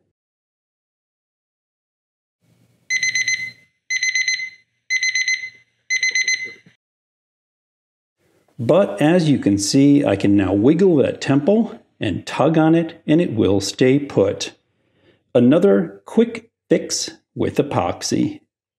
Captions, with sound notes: (timer ringing) But, as you can see, I can now wiggle the temple and tug on it and it will stay put. Another quick fix with epoxy.